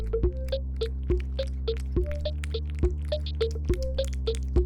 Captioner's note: Cauliflower slurping